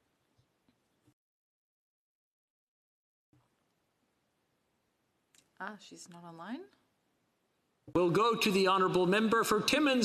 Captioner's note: speaking French